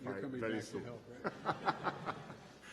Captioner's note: laughter